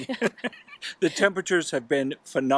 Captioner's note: laughing